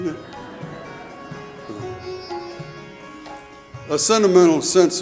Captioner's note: audience laughing